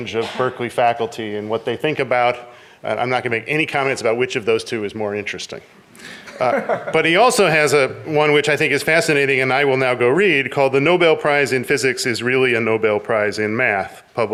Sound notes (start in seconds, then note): 6.0 laughs